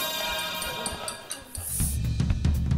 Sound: glass chiming; chattering; fast drum beat

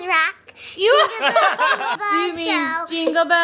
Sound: laughing

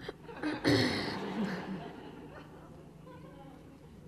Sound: laughter

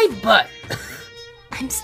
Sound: cOuGh

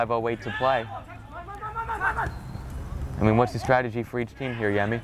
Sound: players talking and yelling

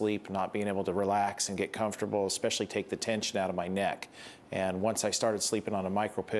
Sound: none

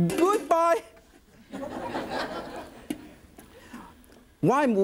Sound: audience laughs

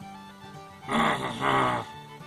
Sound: grumbles

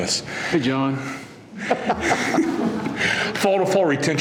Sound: laughter

